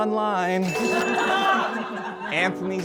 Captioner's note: laughter